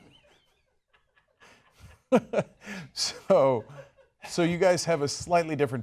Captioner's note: laughter